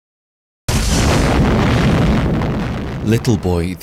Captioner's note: atomic bomb exploding